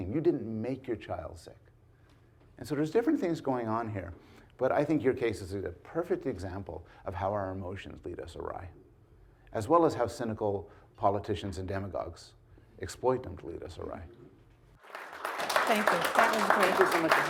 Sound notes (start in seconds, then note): 14.8 audience clapping